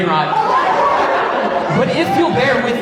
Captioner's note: laughing continues